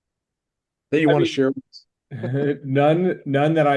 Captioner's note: chuckles